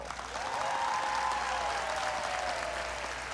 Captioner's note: whooping, cheering